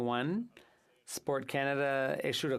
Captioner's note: speaking French